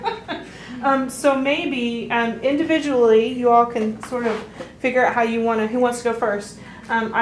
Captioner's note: laughter